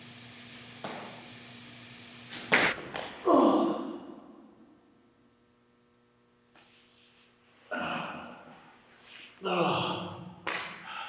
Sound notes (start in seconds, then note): 2.4 body thuds; 2.8 Jacob groans; 9.4 Jacob groaning